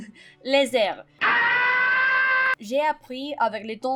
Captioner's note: screams of agony